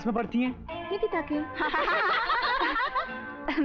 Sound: laughs

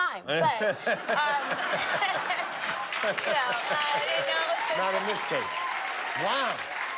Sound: laughter

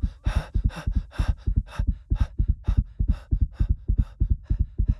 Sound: heart beating fast; panicked breathing

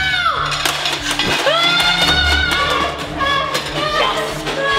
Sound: screaming; dishes rattling

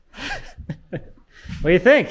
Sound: laughing

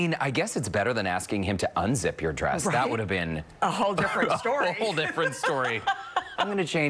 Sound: laughter

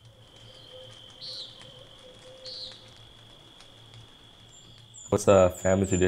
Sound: owl hooting. Insects’ shrill call

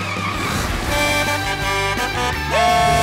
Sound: honking

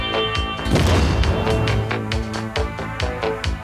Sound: gun shots; explode

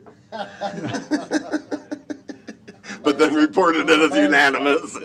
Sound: laughter

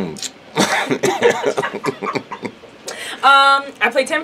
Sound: laughing

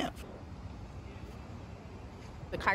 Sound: city street noise

